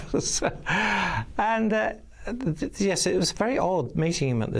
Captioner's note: laughing